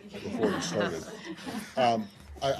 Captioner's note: laughter